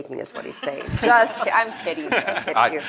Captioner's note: laughter